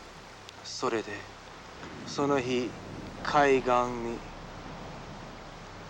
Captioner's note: speaking foreign language